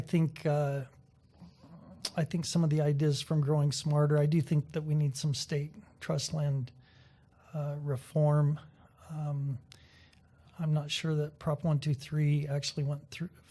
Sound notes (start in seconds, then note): none